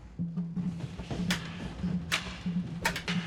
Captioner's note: swords clanking